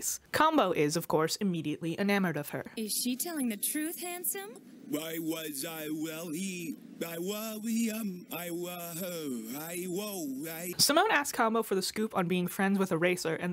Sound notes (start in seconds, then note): 4.6 Kombo flusteredly babbling